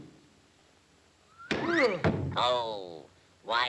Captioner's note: fist thuds; Popeye thuds; fist thuds